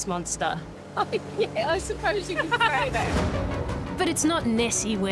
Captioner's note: laughs